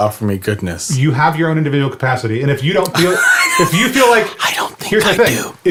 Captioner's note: laughs